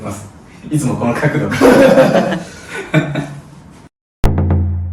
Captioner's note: laughs